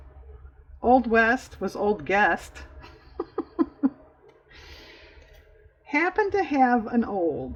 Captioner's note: laughs